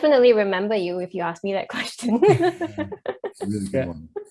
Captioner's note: laughs